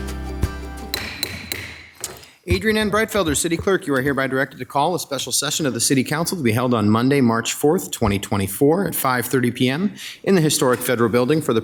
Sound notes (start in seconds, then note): 0.9 gavel banging